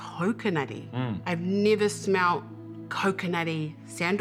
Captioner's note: none